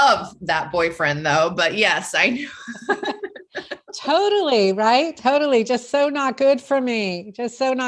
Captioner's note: both laugh